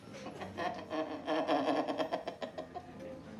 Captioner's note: laughing